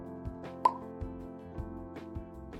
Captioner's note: pop